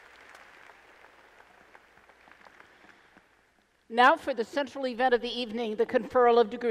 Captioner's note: applause